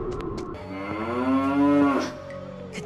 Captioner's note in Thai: เสียงกระบือร้อง